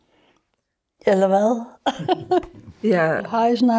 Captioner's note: laughs